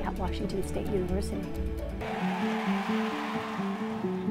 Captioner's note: crowd cheers